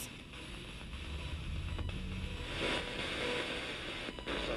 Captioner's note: radio static